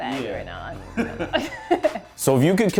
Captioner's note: laughs